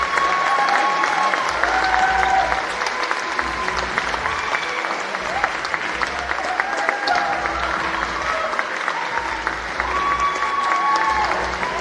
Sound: cheering and Applause

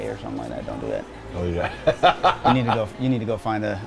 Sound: laughs

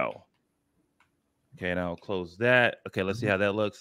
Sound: speaking normally

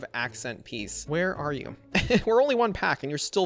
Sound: laughs

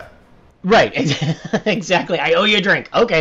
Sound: laughs

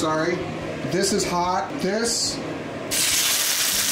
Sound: sizzling

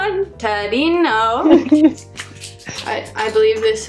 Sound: laughs

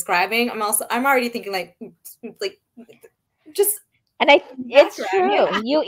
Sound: imitating bass beats

